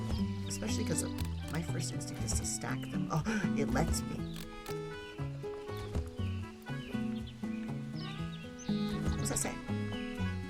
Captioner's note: gasps